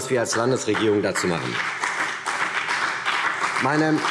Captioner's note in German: Beifall CDU und vereinzelt BÜNDNIS 90/DIE GRÜNEN